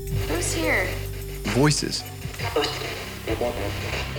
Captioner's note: voiceover